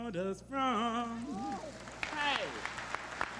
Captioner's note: applause